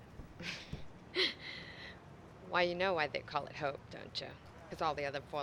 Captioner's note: laughing